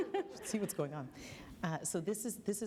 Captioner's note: laughter